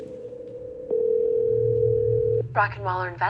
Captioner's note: phone ringing